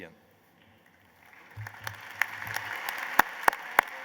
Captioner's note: applause